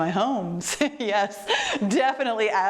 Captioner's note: laughs